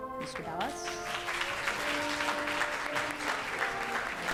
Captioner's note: audience claps